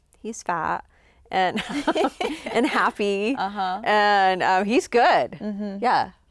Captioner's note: chuckles